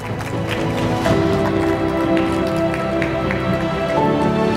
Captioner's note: audience applause